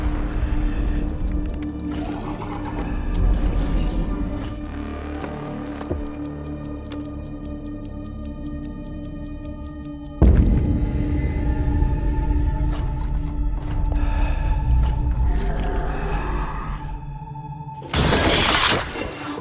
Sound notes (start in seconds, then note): 0.0 heavy breathing; 4.6 chess clock ticking; 4.6 dark music playing; 12.7 heavy breathing; 13.6 inhuman groaning; 17.9 shrieking